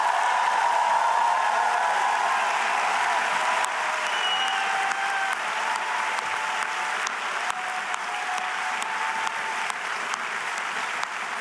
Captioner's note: cheers and applause